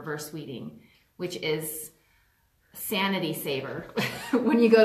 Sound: laughs

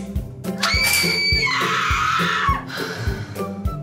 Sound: girl screaming

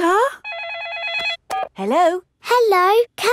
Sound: phone rings

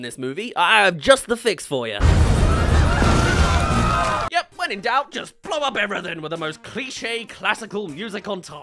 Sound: explosions

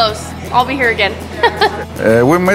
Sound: giggles

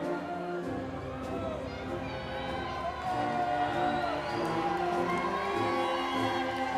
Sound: upbeat music; crowd applauding

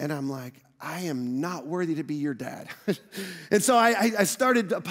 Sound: chuckles

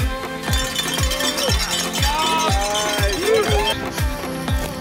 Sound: cheering

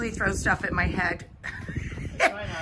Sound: laughs

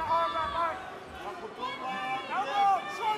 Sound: trainers shouting

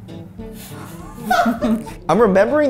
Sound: laughing

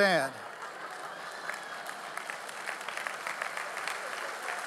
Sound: audience applauding

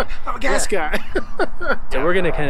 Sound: laughs

